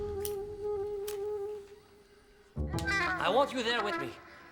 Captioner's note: lighter clicks